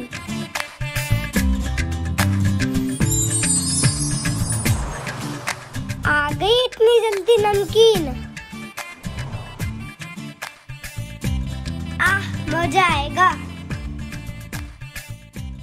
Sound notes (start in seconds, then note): 2.8 magical Sound